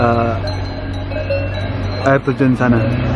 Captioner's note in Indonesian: sounds of bell-cows